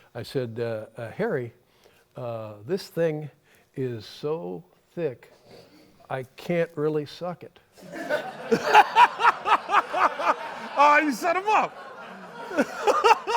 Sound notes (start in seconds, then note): 7.8 laughter